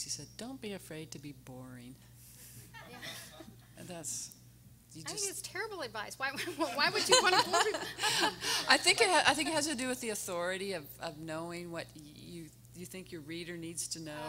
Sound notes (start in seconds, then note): 2.8 everyone laughing; 6.9 everyone laughing